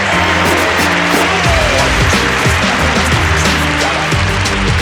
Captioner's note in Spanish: Scratch